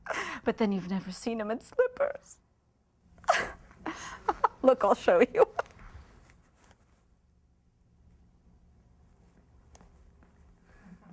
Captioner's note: Mlle. Y. laughs aloud